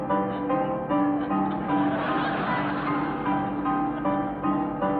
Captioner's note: audience laughing